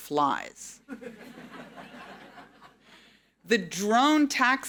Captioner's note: audience laughing